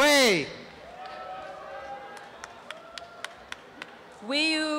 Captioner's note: applause and cheering